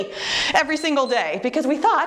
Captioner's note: timer beeps